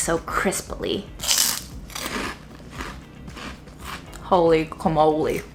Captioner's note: chip crunching